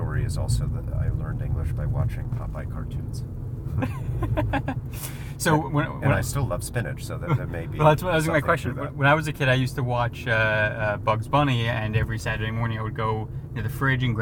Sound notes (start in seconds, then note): 3.7 both laugh